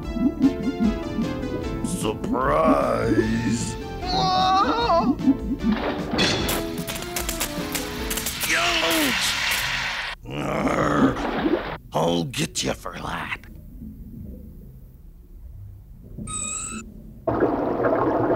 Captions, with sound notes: -Surprise. -Whoa! (electricity crackles) Youch! (groans) I'll get ya for that.